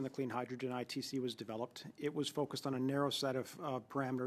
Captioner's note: speaking French